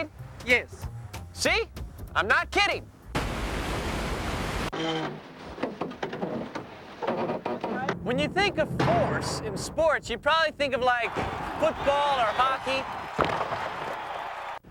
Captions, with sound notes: YES. SEE? I'M NOT KIDDING. ( loud creaking ) WHEN YOU THINK OF FORCE IN SPORTS YOU PROBABLY THINK OF, LIKE FOOTBALL OR HOCKEY.